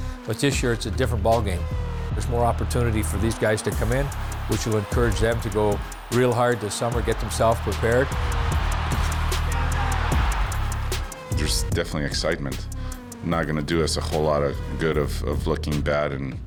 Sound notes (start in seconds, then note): 8.6 crowd cheering; 8.6 upbeat music